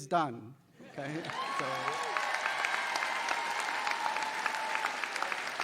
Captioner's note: audience applauding